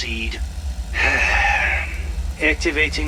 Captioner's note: sighs